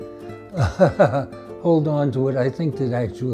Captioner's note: laughs